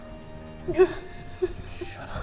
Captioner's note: unnerved laughter